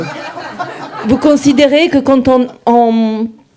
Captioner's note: speaking in French